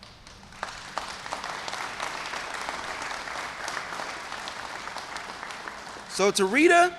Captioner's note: applause